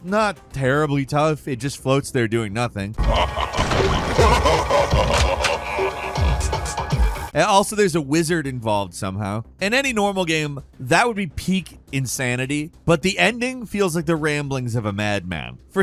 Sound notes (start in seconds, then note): 3.0 being laughing; 3.0 gunshot bangs